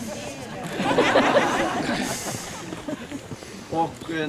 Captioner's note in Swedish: Skratt